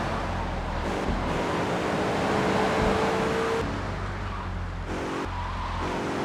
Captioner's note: sirens wailing